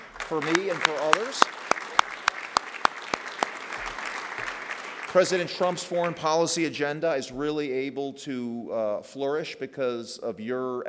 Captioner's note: applause